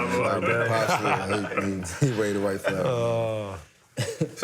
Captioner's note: laughter